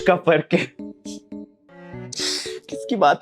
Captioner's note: laughing